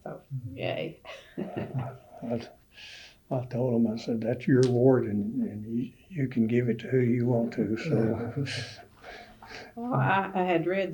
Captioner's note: laughter